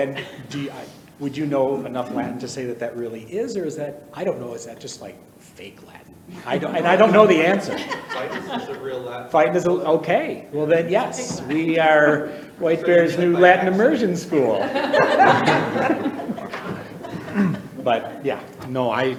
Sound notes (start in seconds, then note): 14.8 people laughing